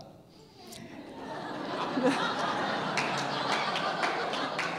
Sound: audience laughing

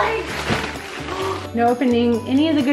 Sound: gasps

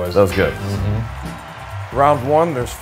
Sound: audience cheering

